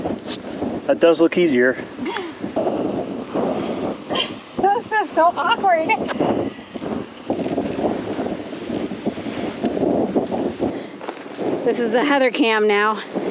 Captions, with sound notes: That does look easier. This is so awkward. [wind] This is the Heather cam now.